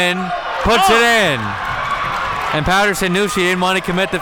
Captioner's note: audience cheering